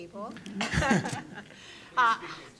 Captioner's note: audience laughing